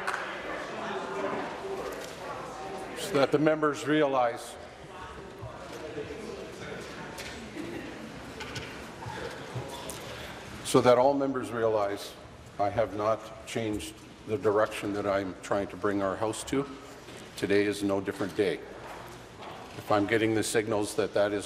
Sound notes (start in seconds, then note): 0.0 applause; 4.2 conversation din